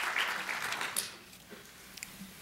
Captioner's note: applause